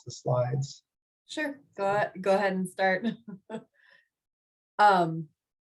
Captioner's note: laughs